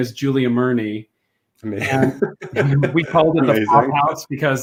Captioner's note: laughs